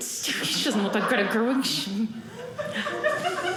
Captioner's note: audience laughing